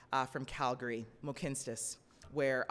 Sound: speaking in foreign language

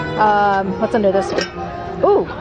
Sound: metal cling

